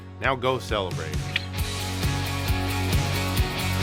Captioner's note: clicks